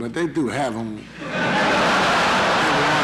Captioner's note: laughter in the courtroom